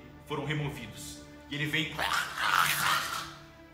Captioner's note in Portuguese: grunhidos